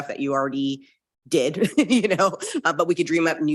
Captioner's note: laughing